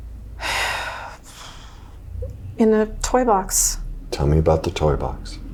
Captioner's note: sighs